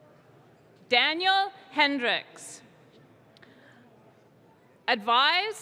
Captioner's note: none